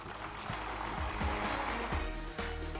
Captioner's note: applause